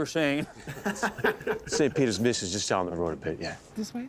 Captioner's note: laughter